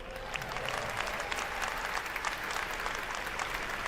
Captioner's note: applause